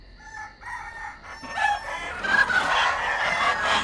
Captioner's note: geese honk